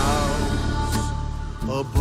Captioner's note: roaring